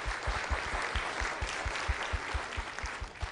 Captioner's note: audience applause